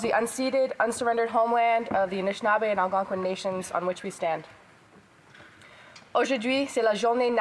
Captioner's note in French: voix de l'interprète